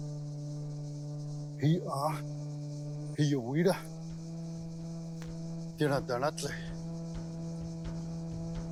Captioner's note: speaking Cherokee language